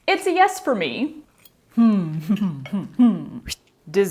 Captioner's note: happy hmms